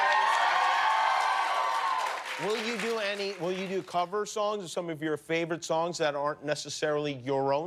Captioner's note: cheers and applause